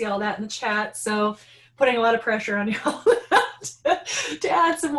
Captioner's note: laughing